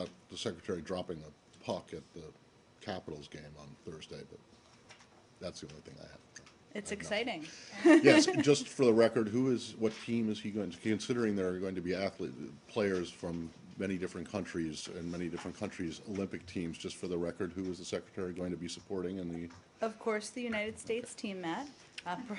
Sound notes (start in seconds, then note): 7.7 laughter